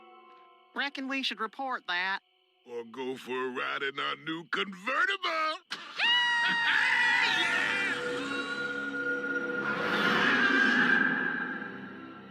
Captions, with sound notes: Reckon we should report that? Or go for a ride in our new convertible! [Blubs and Durland cheering] [roar]